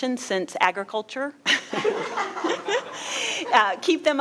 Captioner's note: all laughing